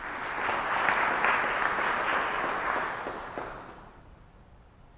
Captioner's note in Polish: oklaski